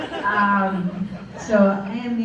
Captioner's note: laughter